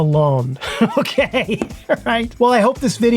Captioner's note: laughing